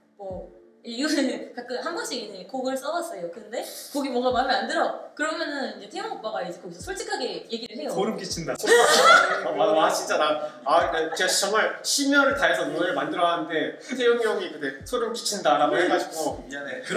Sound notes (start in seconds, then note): 8.6 laughs